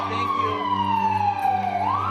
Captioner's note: sirens